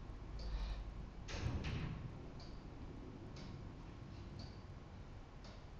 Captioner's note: clock ticking; door thudding